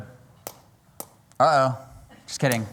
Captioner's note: tapping